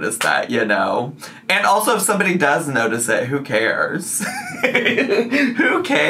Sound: laughs

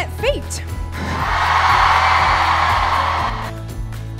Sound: cheering

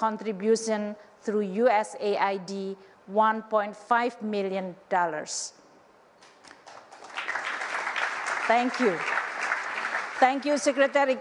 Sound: applause

